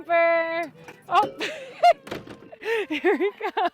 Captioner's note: laughs